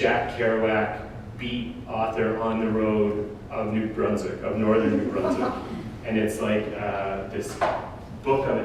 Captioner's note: audience: Laughter